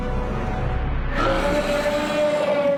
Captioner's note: roars